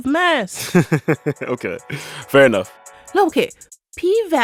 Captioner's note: laughter